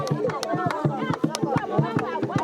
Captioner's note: tapping sound